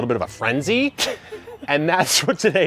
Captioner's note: laughing